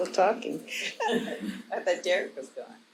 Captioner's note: audience laughing